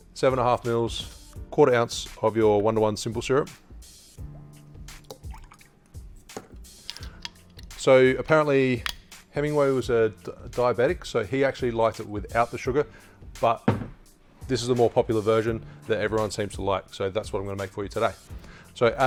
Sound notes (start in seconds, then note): 5.0 syrup pours